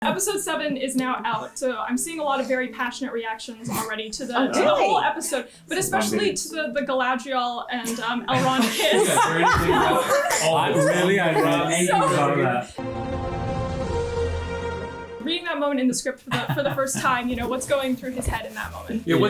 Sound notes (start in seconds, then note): 8.3 laughter; 12.8 whimsical music